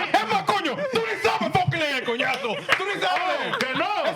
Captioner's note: speaking Spanish